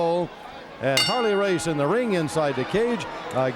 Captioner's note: bell rings